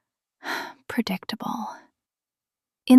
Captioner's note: sighs